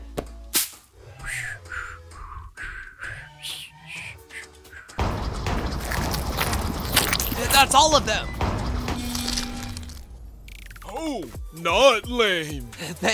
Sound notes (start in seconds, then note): 1.1 whistling